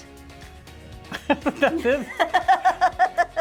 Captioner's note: laughing